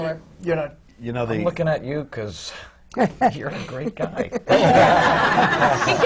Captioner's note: laughter